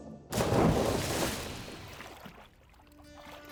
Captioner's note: splash